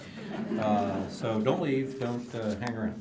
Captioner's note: laughter